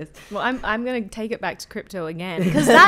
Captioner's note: laughing